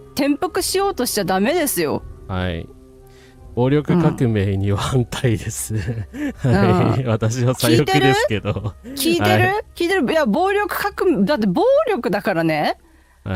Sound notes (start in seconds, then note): 7.8 laughter